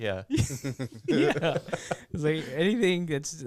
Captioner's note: laughter